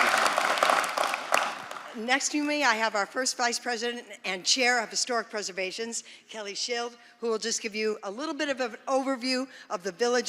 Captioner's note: applause